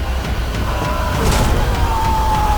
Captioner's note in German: Kampfgeschrei